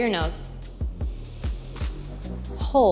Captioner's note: inhaling